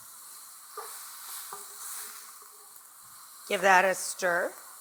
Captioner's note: oil sizzling